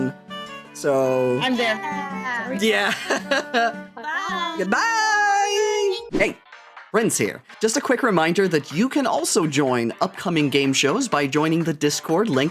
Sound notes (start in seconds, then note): 2.7 laughing